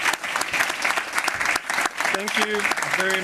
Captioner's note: applause